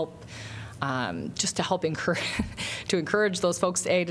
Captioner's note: laughter